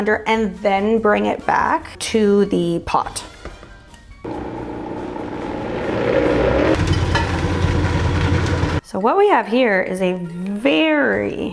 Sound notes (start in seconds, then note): 4.2 blender whirring